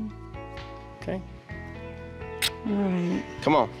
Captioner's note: smooch